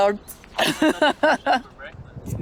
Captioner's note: laughing